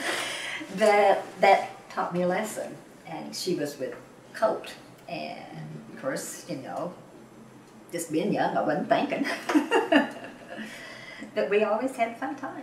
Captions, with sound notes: (Laughs) That taught me a lesson and she was with colt and of course, you know, just being young I wasn’t thinking. But we always had a fun time.